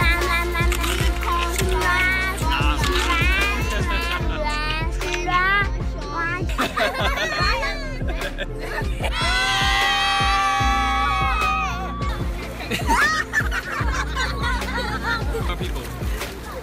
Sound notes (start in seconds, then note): 9.1 screaming; 14.1 laughing